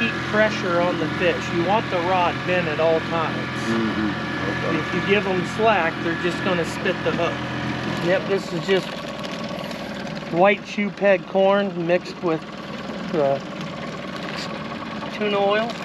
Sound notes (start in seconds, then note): 8.7 boat engine idling